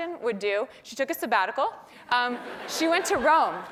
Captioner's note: laugh